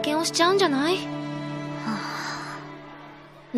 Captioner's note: sigh